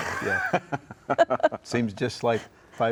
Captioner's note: chuckling